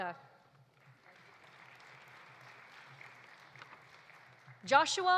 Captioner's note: audience applauding